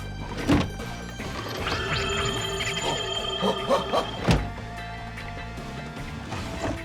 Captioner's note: eerie pulsing sound, alien chittering